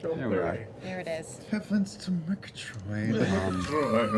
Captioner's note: Snagglepuss voice